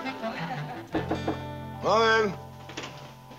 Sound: knocking on door

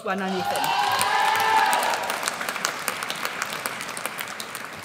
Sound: audience cheers

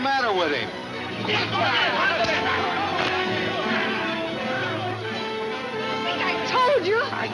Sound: dramatic music; men shouting

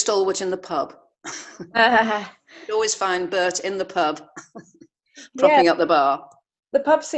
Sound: laughs

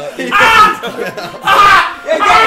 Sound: yelling

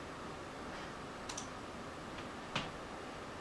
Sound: mouse Click

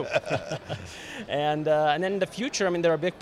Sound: both laughing

